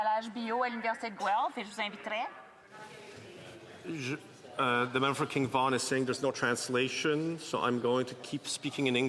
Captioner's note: speaking French